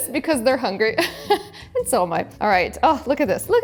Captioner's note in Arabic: ضحكة مكتومة